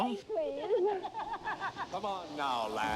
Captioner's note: laughs